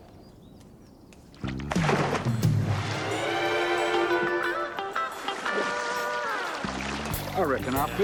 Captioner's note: water splashing; cheerful music